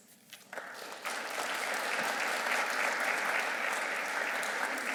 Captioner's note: audience clapping